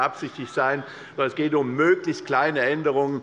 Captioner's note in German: Zurufe von der SPD